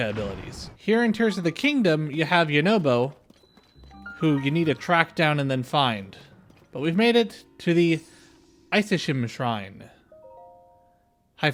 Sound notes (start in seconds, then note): 4.6 fire